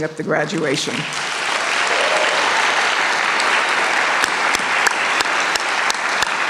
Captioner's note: applause